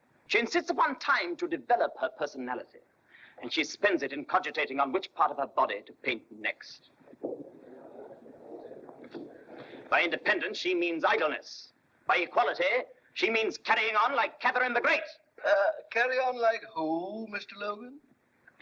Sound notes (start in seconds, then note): 7.1 muffled chatter